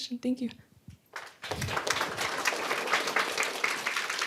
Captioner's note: applause